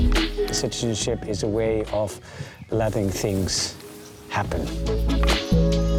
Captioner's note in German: auf Englisch